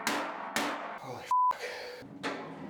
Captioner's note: hammer banging; beep